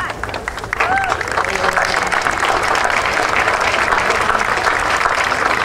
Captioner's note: audience cheering and applauding